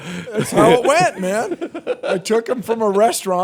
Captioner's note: laughter